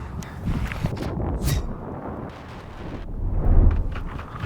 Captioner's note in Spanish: viento soplando